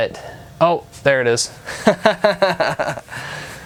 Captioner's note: laughing